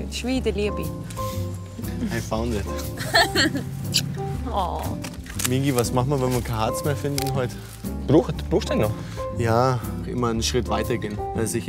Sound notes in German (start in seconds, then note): 2.8 lacht